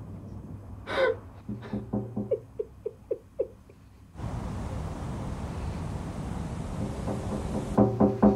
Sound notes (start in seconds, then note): 1.4 knock on window